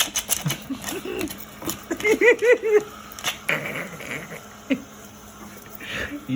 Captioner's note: laughing like an idiot